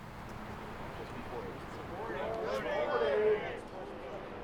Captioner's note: people chattering